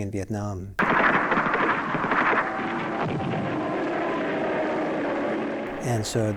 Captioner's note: gunfire, planes flying